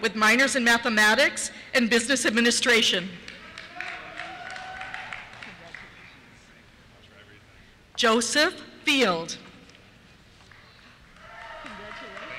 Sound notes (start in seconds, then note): 3.4 cheers; 11.1 cheers; 12.2 voiceover